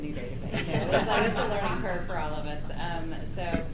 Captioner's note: laughter